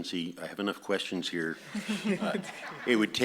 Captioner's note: audience laughs